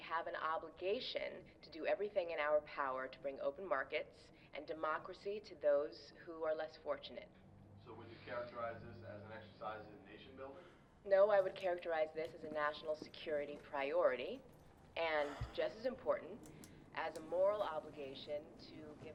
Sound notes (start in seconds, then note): 8.3 voiceover